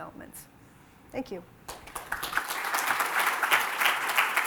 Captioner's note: applause